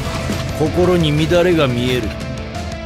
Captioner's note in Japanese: バング